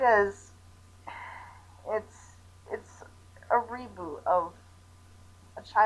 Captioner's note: sighs